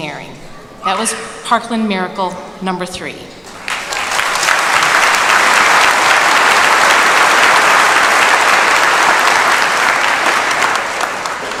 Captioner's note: applause